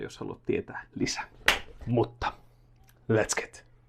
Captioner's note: clap